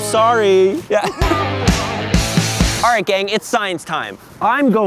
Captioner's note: laughs